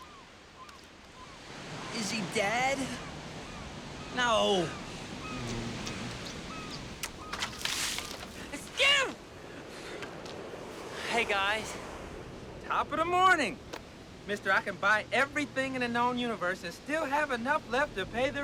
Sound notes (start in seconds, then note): 5.4 making kissing sounds; 7.3 shouts out